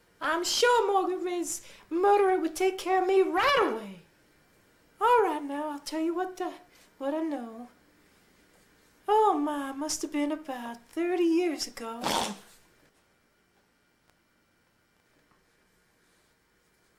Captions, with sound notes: I'm sure Margaret Ray's murderer would take care of me right away. All right now, I'll tell you what, what I know. Oh my. Must've been about 30 years ago [Loud fart]